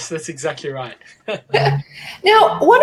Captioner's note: laughing